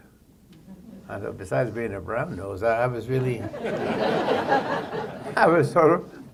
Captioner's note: laughter